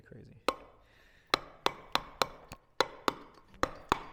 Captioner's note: metal hammering